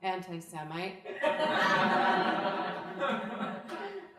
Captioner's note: crowd laughing